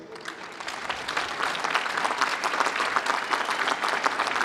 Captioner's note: applause